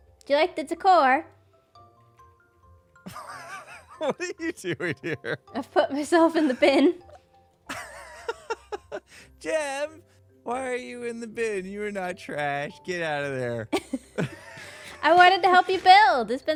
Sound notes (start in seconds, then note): 3.0 laughs; 7.7 laughs; 13.7 laughter